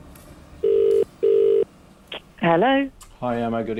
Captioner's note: phone beeping